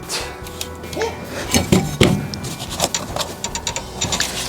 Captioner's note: metal rattling